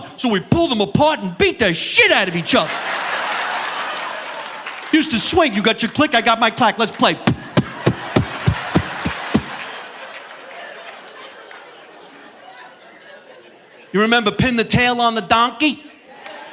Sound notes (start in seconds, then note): 2.2 audience laughing; 7.2 mimics knocking; 10.6 audience laughing